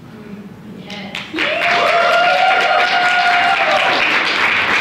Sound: audience applauds

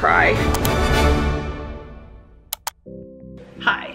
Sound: click

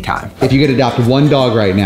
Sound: screen swooshes

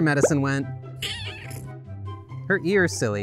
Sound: alarmed kitten meow

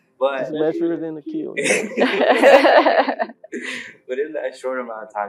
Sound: laugh

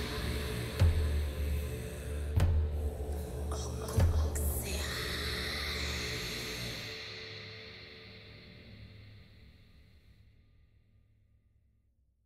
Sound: whisper

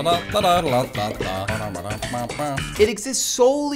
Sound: humming along to the "seinfeld" theme

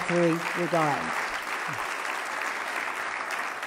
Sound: loud clapping

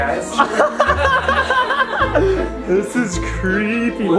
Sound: laughs

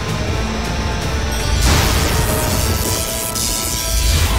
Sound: electric whirring sound

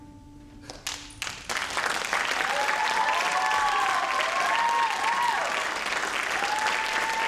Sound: audience applauds; audience cheers

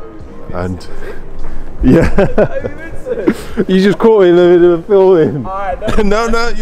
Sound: laughs

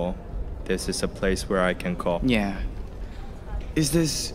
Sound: in Mandarin

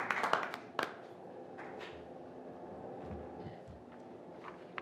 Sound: applause

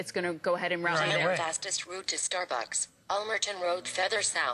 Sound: electronic voice

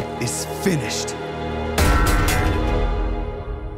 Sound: clanking

